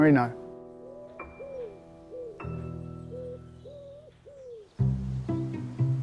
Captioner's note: somber music; doves cooing; playful music